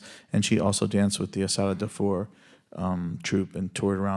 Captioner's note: speaks Spanish